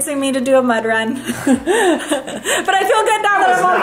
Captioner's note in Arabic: يضحك